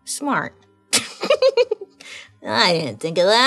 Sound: laughing

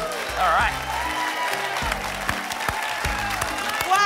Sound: applause and cheering

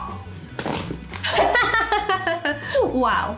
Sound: laughs

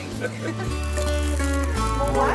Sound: paper crinkling

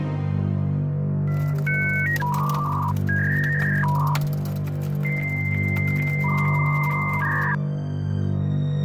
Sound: computer Noises

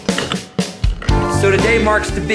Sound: safe lock turns

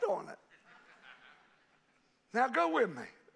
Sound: congregation laughing

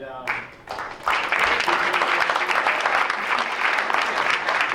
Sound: crowd applauds

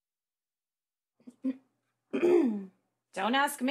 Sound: clears throat

